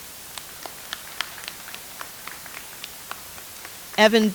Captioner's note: audience applauds